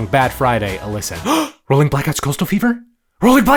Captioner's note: gasps